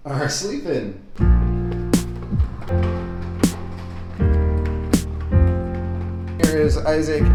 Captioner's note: gentle music; wheels rolling